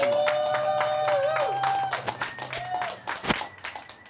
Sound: crowd applauds

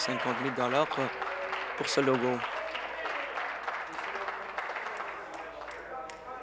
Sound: applause

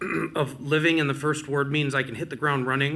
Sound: clears throat

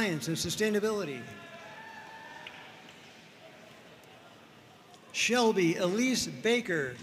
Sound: audience cheering and applauding

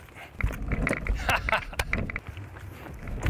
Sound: laughs

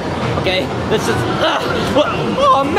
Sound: grunting

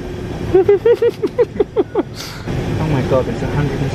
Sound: chuckling

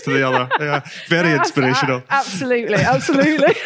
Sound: laughter

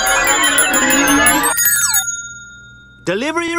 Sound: bell ringing

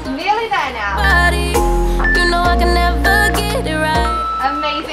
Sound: timer beeps

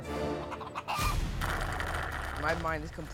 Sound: clucking; slurping

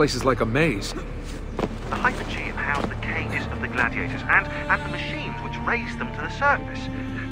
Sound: Shaun through radio

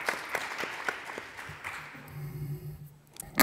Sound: applause

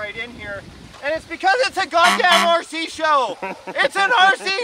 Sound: horn honks; crew member laughs

